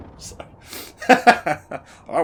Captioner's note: laughs